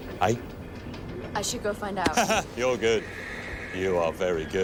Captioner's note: laughs